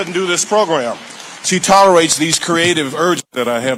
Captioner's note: audience applauding